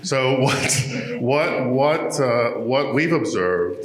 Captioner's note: chuckling